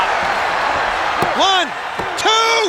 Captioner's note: audience cheers